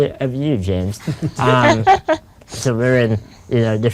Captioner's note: group laughs